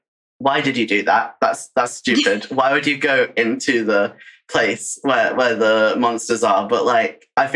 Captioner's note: laughs